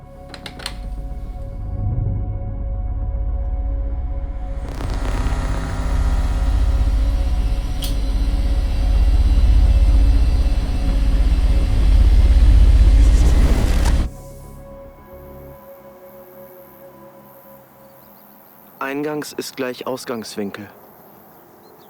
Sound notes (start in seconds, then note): 4.8 increasing machine drone sound; 12.6 electric whoosh